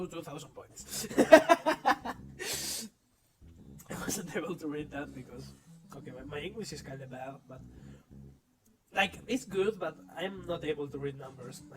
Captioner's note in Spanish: Risas